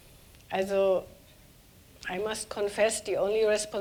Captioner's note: speaking german